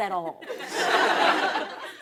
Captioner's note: laughter